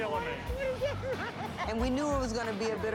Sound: laughter

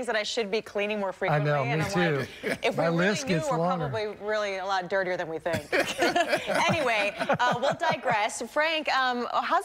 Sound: laughter

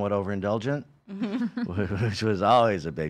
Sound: laughing

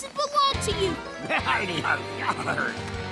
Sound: laughing

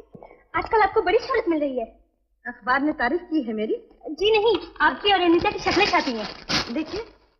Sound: none

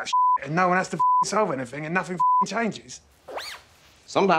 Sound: beeping

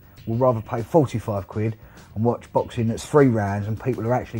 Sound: none

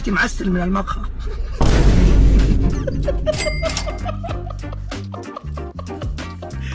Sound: laughing

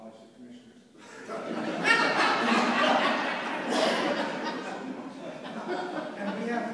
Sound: laughter

